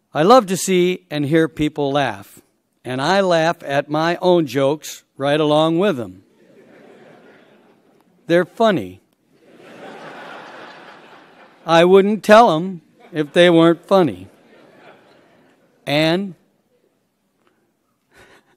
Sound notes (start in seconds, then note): 6.3 laughter; 9.3 laughter; 14.2 laughs